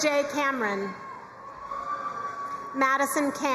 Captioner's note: crowd cheering and applauding